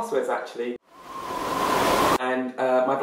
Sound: ferocious wind

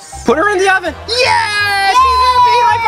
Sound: cheering

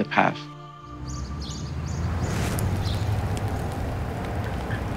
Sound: birds singing

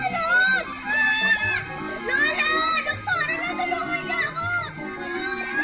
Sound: screams

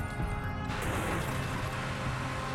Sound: gunshots; engine revving

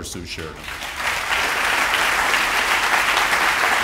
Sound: applause

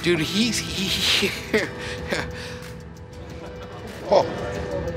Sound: giggles

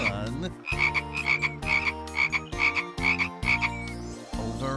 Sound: croaking

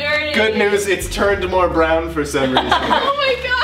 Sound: laughter

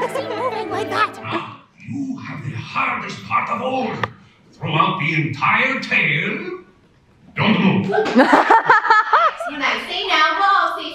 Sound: laughter

